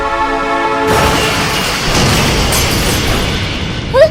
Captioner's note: kaboom